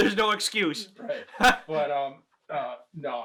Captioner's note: chuckles